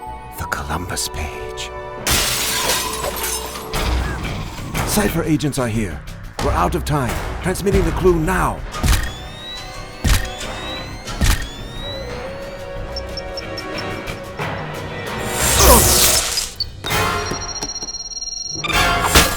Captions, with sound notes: THE COLUMBUS PAGE! CYPHER AGENTS ARE HERE! WE'RE OUT OF TIME. TRANSMITTING THE CLUE NOW. [ SHUTTER CLICKING ] [ BEEPING ] UNH! [ BEEPING ]